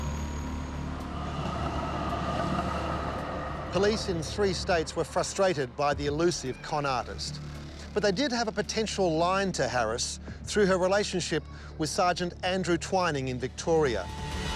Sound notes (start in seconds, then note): 1.2 traffic rumbling; 13.7 dramatic music